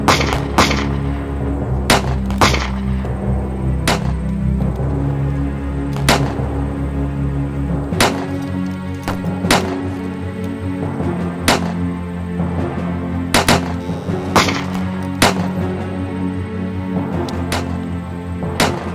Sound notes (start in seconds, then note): 0.1 intense music continues; 6.0 gunshot cracking continues